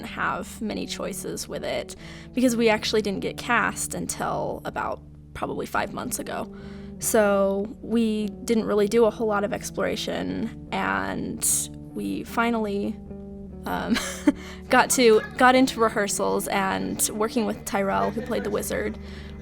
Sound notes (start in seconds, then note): 12.3 laughter